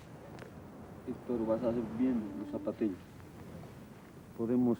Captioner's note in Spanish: Audio hablado en quechua